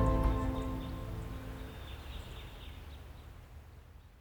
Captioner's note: birds singing